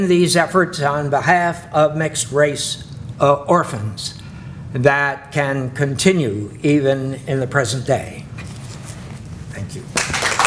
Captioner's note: clapping